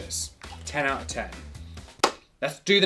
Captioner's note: claps hands